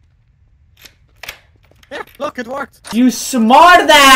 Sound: door unlocks

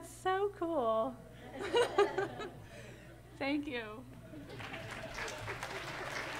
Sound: applause

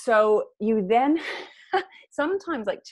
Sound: laughs

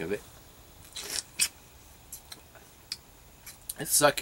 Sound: juicy bite and chewing

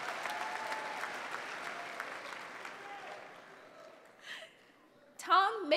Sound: applause

